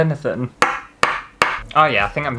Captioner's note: tapping on wood